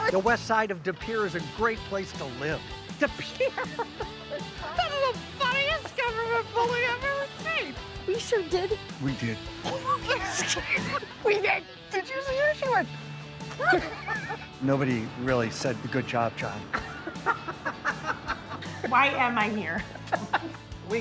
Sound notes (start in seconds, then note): 3.1 laughs; 9.6 laughs; 16.6 onlookers laughing